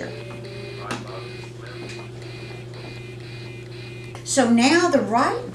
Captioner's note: calculator Noises